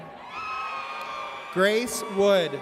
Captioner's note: audience cheers